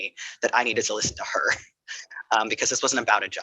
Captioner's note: laughing